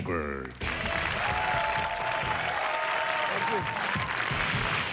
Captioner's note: cheers and applause